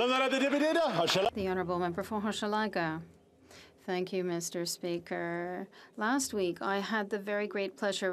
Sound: some Applause

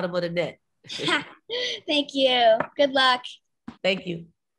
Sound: laughs

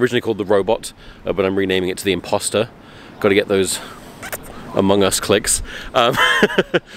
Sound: squeaky kiss sound

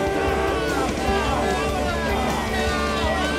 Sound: screaming

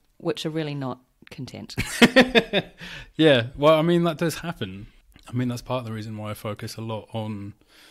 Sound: laughs

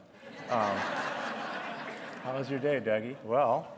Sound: laughter

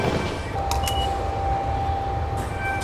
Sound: beeps

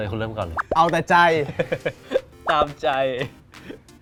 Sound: laughs

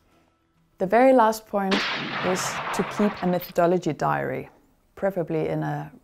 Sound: sound of gunshot

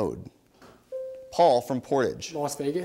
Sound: bell dings

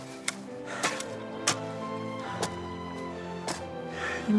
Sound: both panting

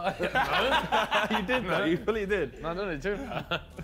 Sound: men laugh

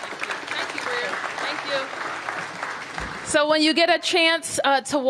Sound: applause

